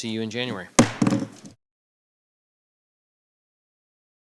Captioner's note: gavel bangs